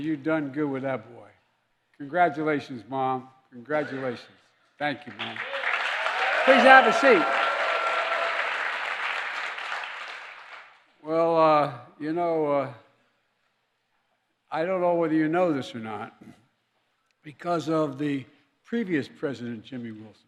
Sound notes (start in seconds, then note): 5.0 applause